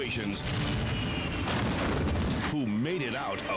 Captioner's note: helicopter crashing